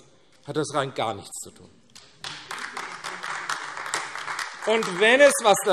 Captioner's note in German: Beifall AfD